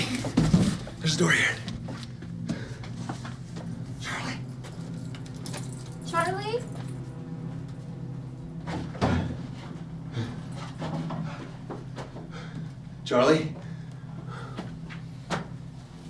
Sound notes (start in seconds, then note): 10.7 Matt heavy breathing